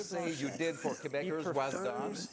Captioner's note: speaking French